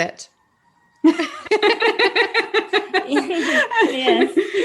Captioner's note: laughing